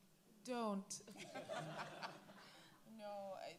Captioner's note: all laugh